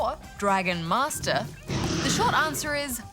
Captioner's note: roars